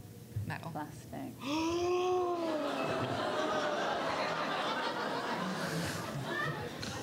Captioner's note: gasps